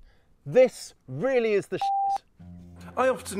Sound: beep

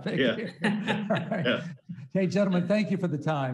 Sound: laughing

